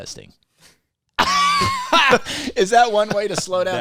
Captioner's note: laughter